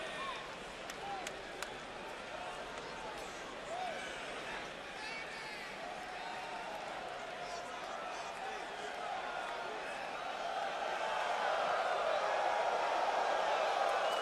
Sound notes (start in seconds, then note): 0.0 crowd cheering